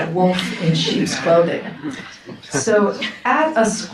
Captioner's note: audience chuckles